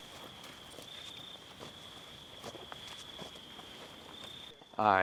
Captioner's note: crickets chirping